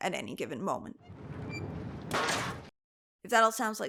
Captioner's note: sign crashes